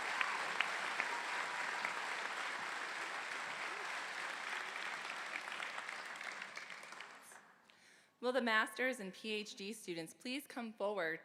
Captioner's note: applause